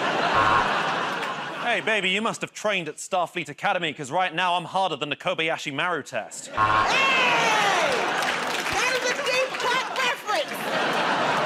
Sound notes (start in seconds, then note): 0.0 laughter; 0.3 buzzer; 6.5 buzzer; 6.9 laughter and applause; 11.2 laughter